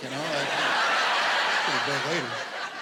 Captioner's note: laughter